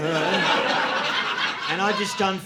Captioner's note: audience laughing